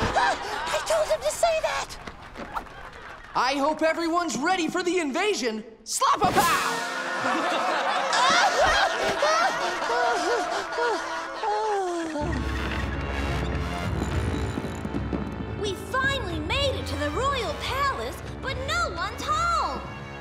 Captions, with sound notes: I told him to say that. I hope everyone's ready for the invasion. Slap-a-pow! [laughing] We finally made it to the Royal Palace, but no one's home.